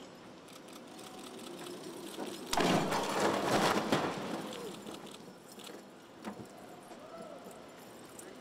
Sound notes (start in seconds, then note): 2.5 crash